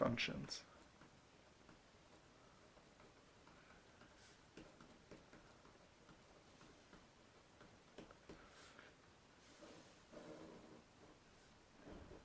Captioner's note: writing